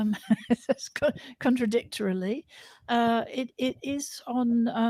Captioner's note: laughter